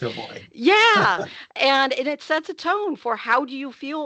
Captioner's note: laughing